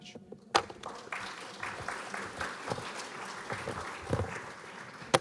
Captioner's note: applause